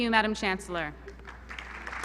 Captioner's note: applause